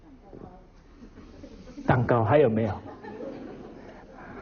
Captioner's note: audience laughter